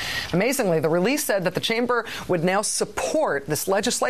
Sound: none

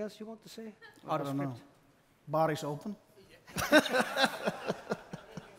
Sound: laughs

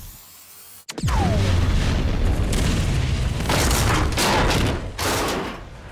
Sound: rail tank car exploding

